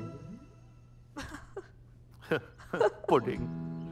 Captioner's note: Both giggling